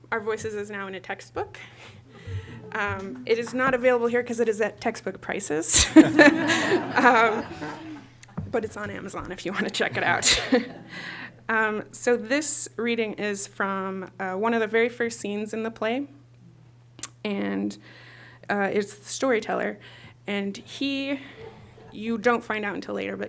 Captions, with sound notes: Our Voices is now in a textbook. It is not available here because it is at textbook prices-- [LAUGHTER] --But it is on Amazon if you want to check it out. So this reading is from one of the very first scenes in the play. And it's the storyteller. And you don't find out until later,